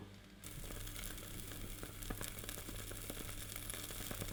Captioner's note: sizzling